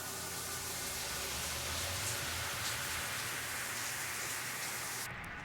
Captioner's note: water hissing